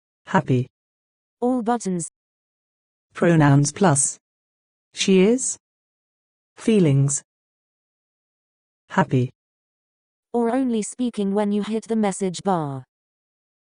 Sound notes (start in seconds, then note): 3.2 simPODD voice